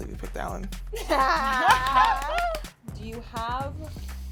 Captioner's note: clapping